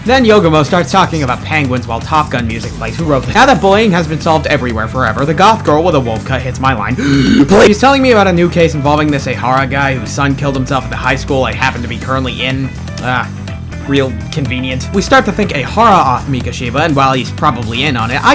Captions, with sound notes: then yogomo starts talking about penguins while top gun music plays who wrote this now that bullying has been solved everywhere forever, the goth girl with a wolf cut hits my line, (gasp) PLEA- she’s telling me about a new case involving this Ehara guy, who’s son killed himself at the highschool I happen to be currently in. Ah. Real, convenient. we start to think Ehara offed mikoshiba, and while he’s probably in on it,